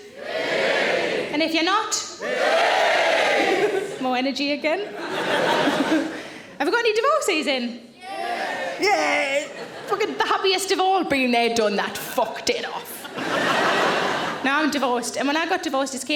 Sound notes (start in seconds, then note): 0.2 audience cheering; 4.8 audience laughing; 8.1 audience cheering; 12.8 audience laughing